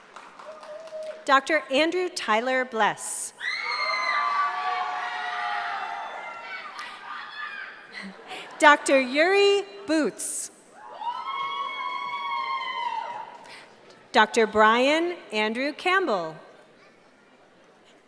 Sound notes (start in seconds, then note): 3.4 cheering